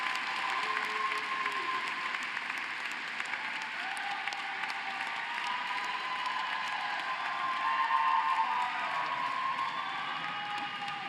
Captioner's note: cheering and applause